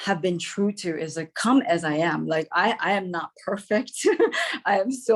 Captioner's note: laughs